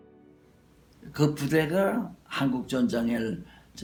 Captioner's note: speaking Korean